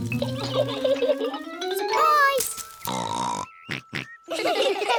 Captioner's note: both laugh; oinks; all laugh